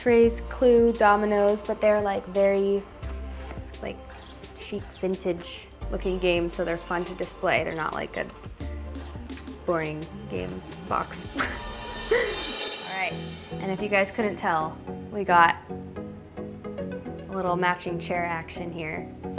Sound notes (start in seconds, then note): 11.2 chuckles; 14.2 pop music